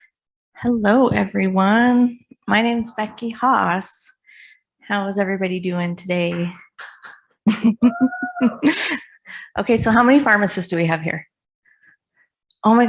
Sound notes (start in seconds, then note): 6.8 audience member claps; 7.4 chuckles; 7.9 audience member shouts